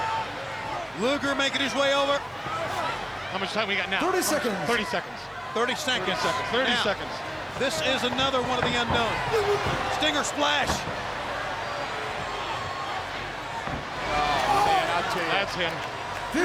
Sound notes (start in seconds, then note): 11.7 crowd cheering